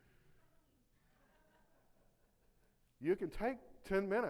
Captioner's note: audience laughing